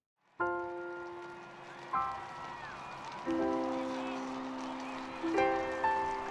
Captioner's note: audience applauding; peaceful music